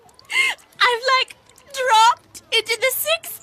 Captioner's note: sobbing